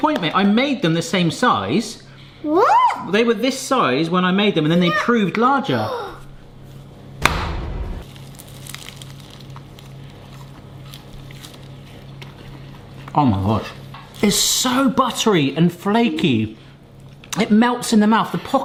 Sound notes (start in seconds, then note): 5.7 gasping; 7.2 hands banging; 8.1 both crunching